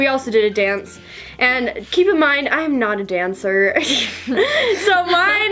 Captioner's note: laughing